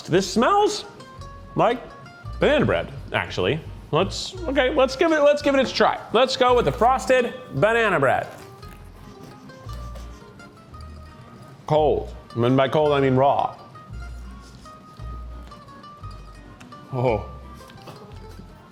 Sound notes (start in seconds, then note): 8.7 sniffing; 14.2 lighthearted music